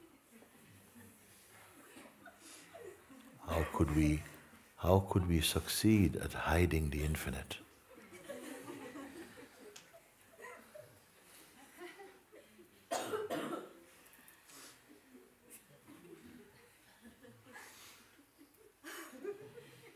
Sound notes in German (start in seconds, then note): 9.6 Lachen; 15.3 Stille, unterbrochen von Lachen